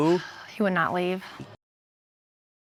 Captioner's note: sighs